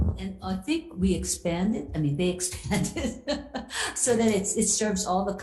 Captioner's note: laughs